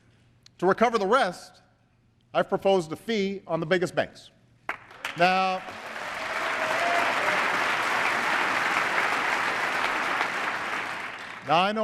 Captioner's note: applause